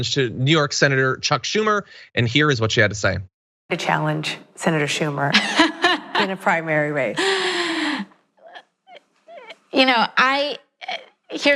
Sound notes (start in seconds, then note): 5.3 laugh